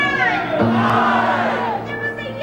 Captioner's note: crowd